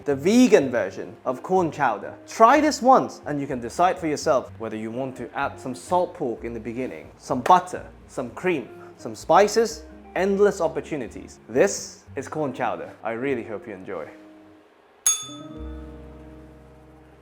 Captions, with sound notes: the vegan version of corn chowder. Try this once and you can decide for yourself whether you want to add some salt pork in the beginning, some butter, some cream, some spices, endless opportunities. This is corn chowder. I really hope you enjoy. [bell rings]